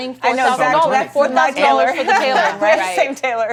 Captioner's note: laughs